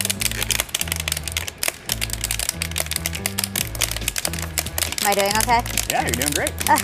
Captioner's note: popping noise